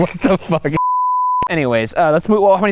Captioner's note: beeping effect